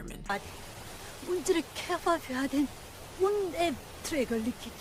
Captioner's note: speaking foreign language